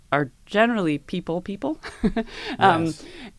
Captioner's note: laugh